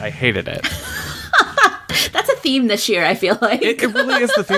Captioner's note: laughs